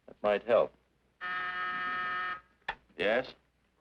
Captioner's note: buzzer ringing